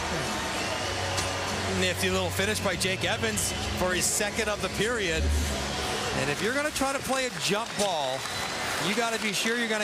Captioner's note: cheering and Applause